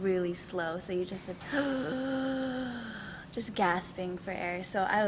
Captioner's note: gasping